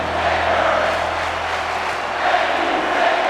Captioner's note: audience clapping